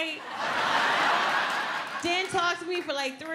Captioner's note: audience laughs